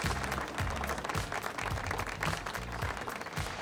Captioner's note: applause